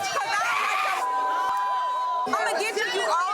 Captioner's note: group chattering